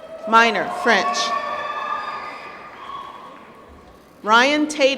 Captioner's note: applause